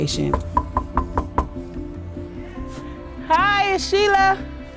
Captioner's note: knocks